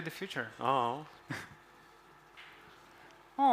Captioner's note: chuckles